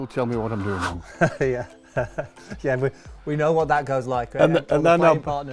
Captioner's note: laughs